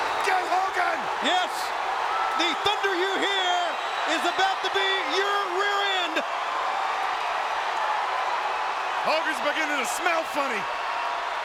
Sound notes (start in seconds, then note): 6.4 audience cheering